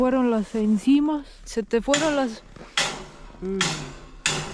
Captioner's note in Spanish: Ruido de martillo